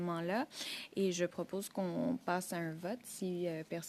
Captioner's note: speaking French